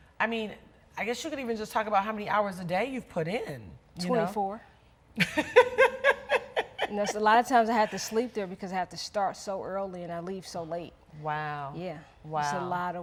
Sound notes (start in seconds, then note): 5.3 laughing